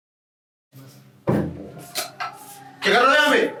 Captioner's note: door flies open